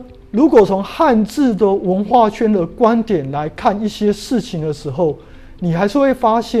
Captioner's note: chinese words